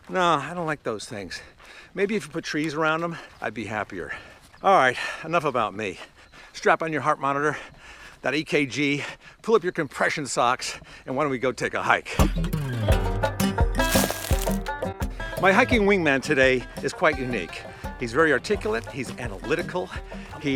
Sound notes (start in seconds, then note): 13.3 upbeat percussive music; 13.8 crunch